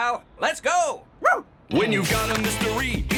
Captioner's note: affirmative bark; theme music